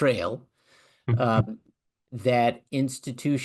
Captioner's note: laugh